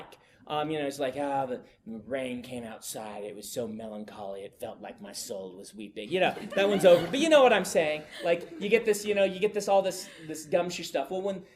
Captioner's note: students laugh